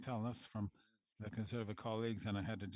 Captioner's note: speaking French